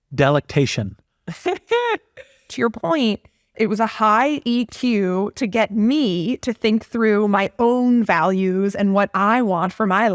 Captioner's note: laugh